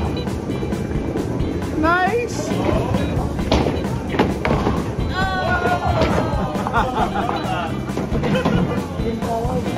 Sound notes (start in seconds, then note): 6.2 laughing